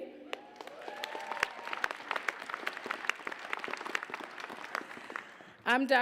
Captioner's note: applause, cheers